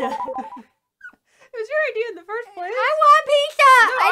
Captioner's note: laughing